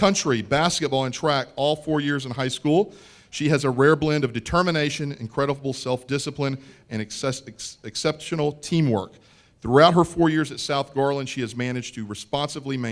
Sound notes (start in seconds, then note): none